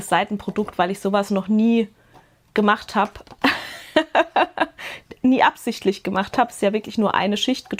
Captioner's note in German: Gelächter